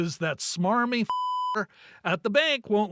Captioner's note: beep